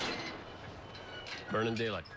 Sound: gate clunks

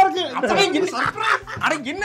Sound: psychotic laughter

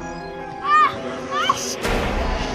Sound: screaming

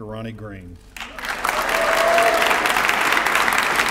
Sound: applause

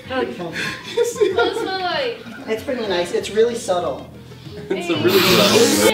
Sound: laughs

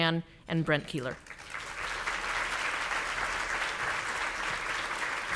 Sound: audience applauding

